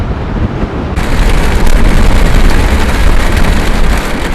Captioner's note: heavy rain storm sounds